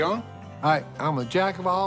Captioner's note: none